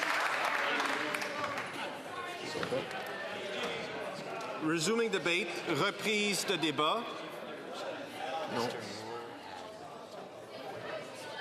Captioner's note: applause